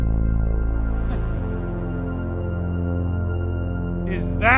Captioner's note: Wally scoffs